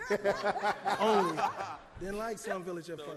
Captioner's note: laughs